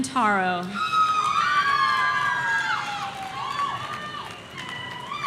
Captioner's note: audience cheering